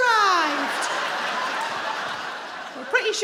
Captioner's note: crowd laughs